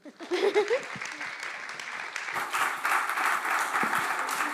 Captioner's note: chuckles; applause